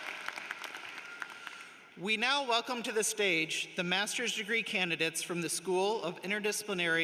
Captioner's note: applause